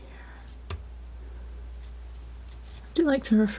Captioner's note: scratching